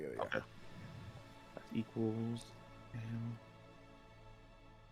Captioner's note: digital Rolling